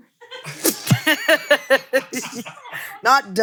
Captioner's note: both laughing